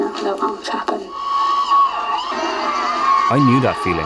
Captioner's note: distorted screaming